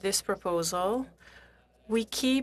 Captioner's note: speaking French